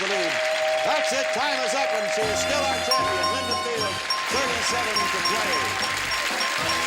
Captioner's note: audience applause; bell dinging